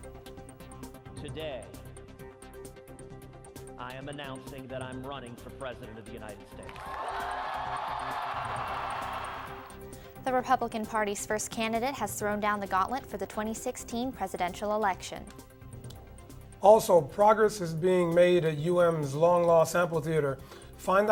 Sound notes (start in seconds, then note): 10.4 applause